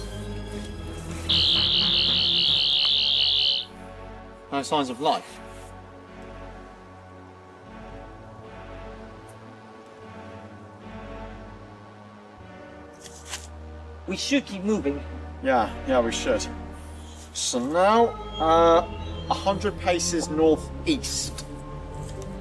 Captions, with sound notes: (BUZZING) No signs of life. (STRING SNAPS) -We should keep moving. -Yeah, yeah, we should. So now, uh... 100 paces North East